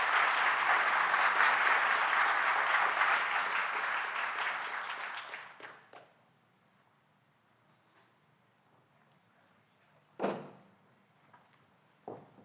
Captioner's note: applause